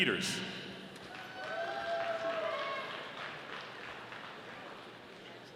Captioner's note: audience applauding